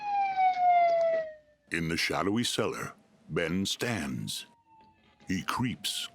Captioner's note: sirens blaring; sirens blaring in distance